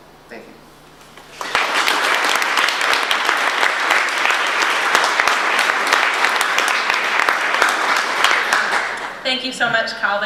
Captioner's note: audience applause